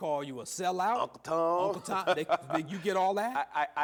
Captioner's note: laughing